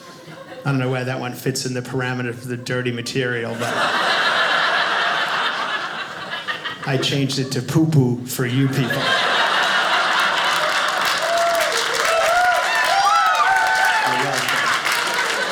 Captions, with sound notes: I don't know where that one fits in the parameter of the dirty material, but . . . (audience laughing) I changed it to "poopoo" for you people. (audience cheers) Yeah.